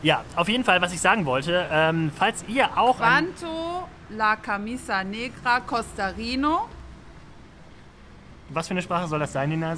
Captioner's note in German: spricht wieder sehr falsches spanisch